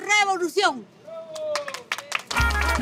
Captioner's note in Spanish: Aplausos